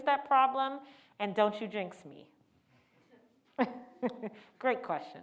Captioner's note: laughs